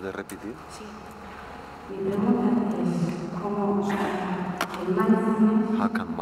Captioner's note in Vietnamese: Tiếng Tây Ban Nha